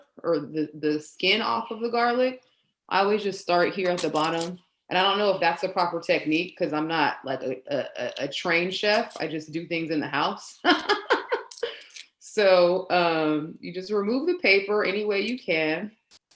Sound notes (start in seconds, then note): 10.7 laughs